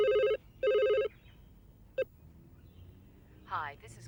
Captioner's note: phone rings